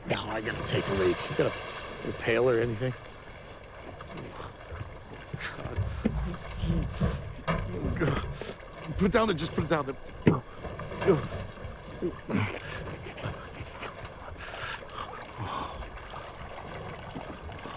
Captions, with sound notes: NOW I GOTTA TAKE A LEAK. GOT A PAIL OR ANYTHING? GOD-- OH GOD. PUT IT DOWN THERE. JUST PUT IT DOWN THERE. (URINATING)